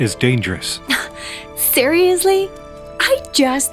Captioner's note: scoffs